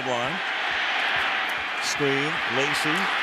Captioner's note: crowd roars